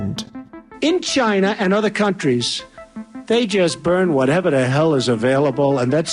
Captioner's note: Voice of Trump